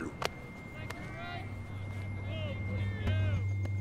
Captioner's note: players shouting; quietly tense electronic music